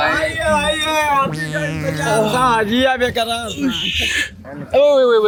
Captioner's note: the rickshaw tout shouts